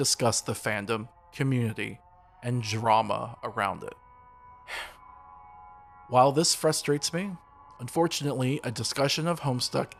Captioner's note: sigh